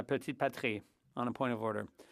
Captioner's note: speaking French